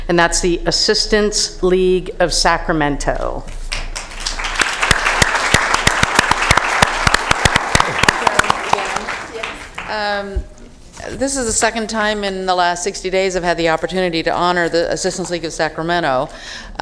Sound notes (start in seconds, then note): 8.7 applause